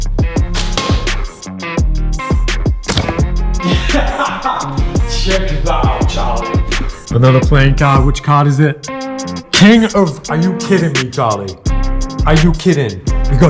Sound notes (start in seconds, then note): 0.0 upbeat music; 3.6 laughs